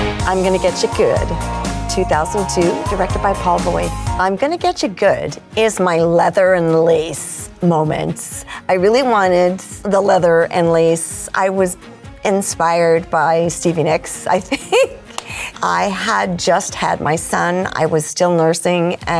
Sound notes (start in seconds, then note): 0.0 upbeat rock music; 14.4 laughing